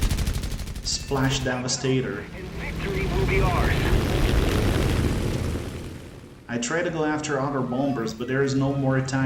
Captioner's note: radio comms